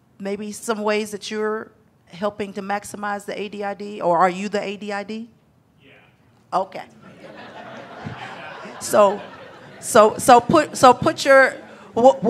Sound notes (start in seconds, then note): 6.9 audience laughing